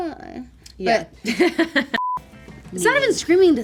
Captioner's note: laughing